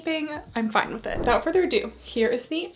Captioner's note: screen whooshing